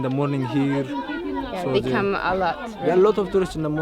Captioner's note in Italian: Inglese